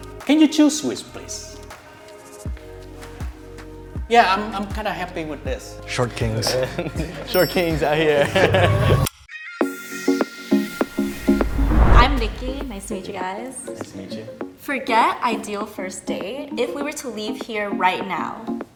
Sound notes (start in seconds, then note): 8.2 laughs; 10.6 soft upbeat music plays